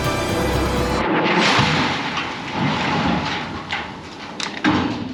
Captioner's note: explosion booming